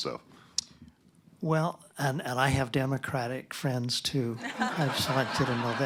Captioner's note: laughter